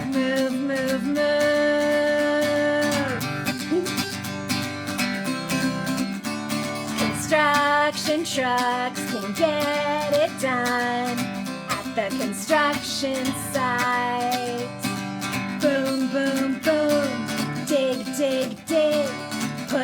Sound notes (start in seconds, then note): 3.5 giggles